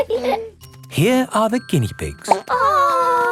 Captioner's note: laughing; plop